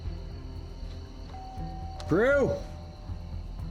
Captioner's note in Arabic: جرس الباب يرن